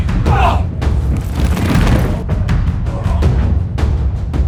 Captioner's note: men groan